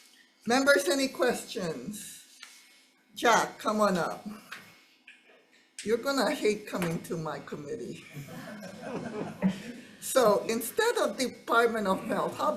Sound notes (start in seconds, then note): 8.5 member laughing